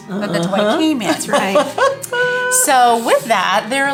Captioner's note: laughs